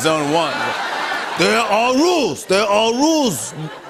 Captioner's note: laughter and applause; gruffly